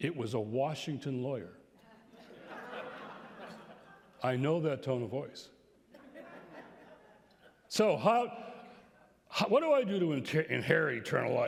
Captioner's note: laughter